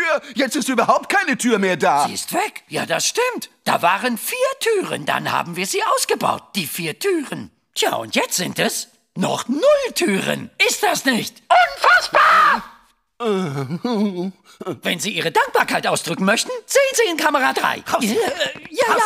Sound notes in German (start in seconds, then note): 11.5 schreit; 13.2 seufzt